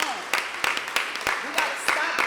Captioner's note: applause